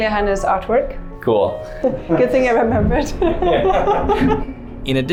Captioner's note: chuckles